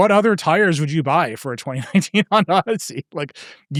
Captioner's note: laughing